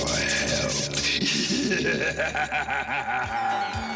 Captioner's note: laughing